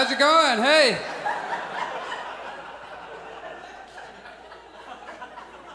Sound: audience laughs

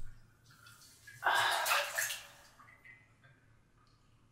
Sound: water splashing

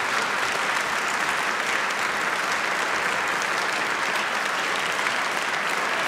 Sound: applause

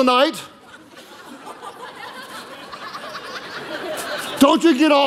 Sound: congregation laughing

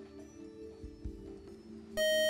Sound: time-out buzzer

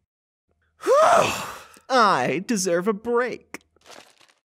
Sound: exasperated yawn

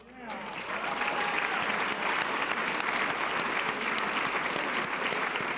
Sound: audience cheers and applause

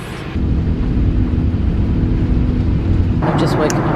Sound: aeroplane humming

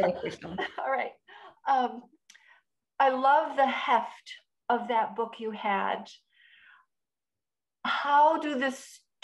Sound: laugh

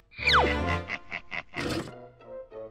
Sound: chittering laugh

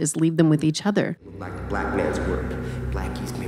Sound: echoing

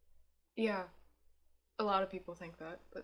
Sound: none

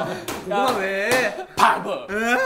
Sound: sassy

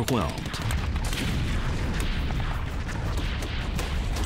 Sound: gunshots

